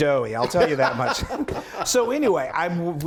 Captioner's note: laughing